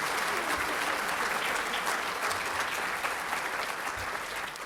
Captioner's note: applause